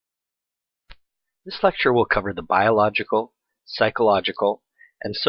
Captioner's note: voiceover